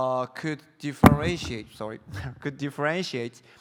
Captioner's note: mic thumps